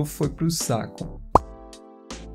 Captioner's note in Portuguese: pop